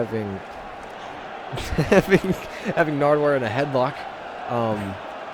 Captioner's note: laughing